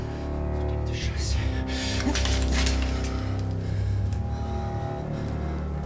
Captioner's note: officer speaking German; ominous music